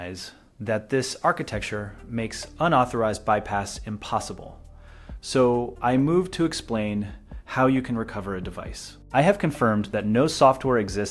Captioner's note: speak with a measured and informative tone